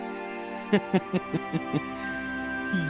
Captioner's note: Ranga's Evil Laugh